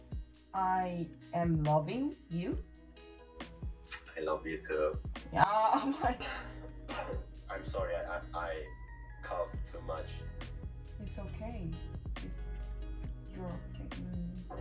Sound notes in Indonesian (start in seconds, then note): 5.6 batuk